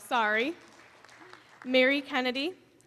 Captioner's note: applause